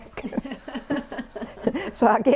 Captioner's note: laughter